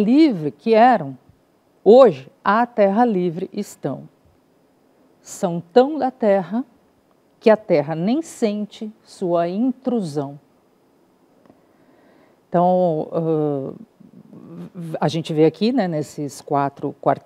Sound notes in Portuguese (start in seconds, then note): 10.3 silêncio